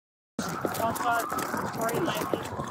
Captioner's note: radio chatter